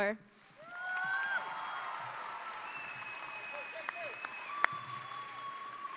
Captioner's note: audience cheering and applauding